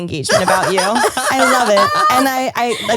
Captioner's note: all laugh